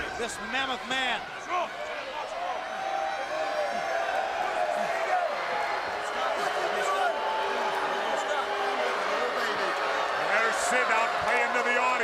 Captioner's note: crowd chatter